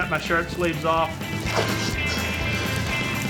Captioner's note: ripping, fire crackling